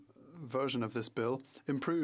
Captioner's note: speaking French